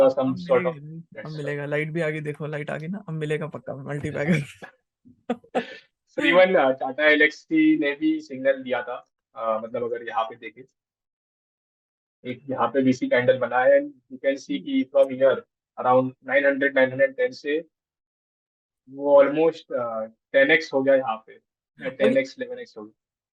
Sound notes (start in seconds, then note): 5.3 laughs